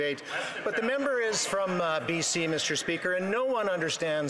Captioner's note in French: voix de l'interprète